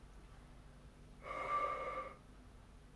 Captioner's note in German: Luftgeräusch